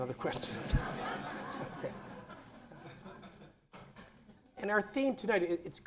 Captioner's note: laughter